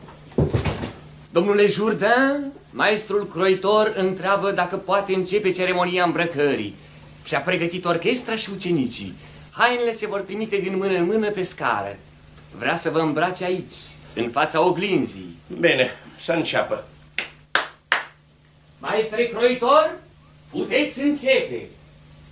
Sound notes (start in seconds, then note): 17.1 sound - claps hands